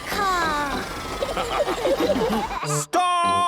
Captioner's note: all laughing